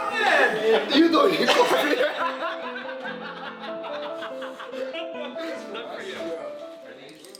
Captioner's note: group laughing